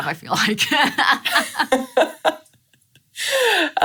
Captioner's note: laughing